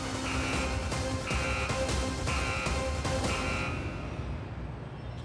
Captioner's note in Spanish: sonido de alarma